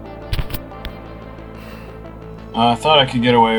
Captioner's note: tense electronic music; sigh